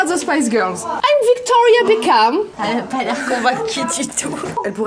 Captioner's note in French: rires